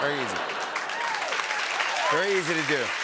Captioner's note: laughter and applause